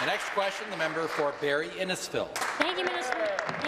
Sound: applause

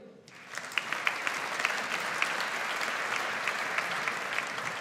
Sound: audience applauds

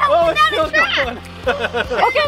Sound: laughs

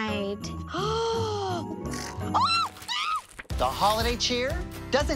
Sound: shrieks

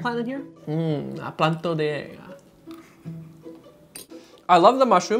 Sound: speaking in foreign language

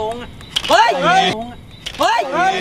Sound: falling

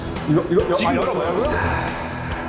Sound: confused

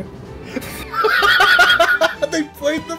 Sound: laughs

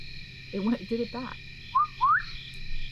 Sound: repeats whistle; whistles

